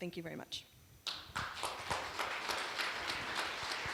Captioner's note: applause